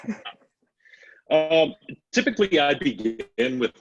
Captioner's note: laughs